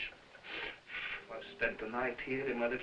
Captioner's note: blowing